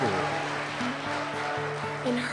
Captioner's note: applause